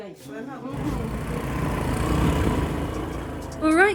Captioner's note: motorbike